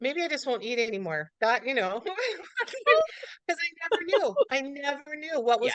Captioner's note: laughs